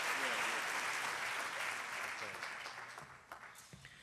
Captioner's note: applause